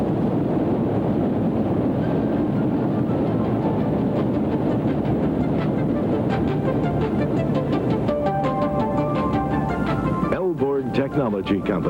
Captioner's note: video sound - water rushing